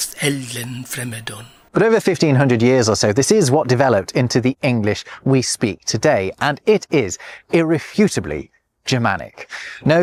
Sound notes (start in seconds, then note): 1.6 Voice reading Beowulf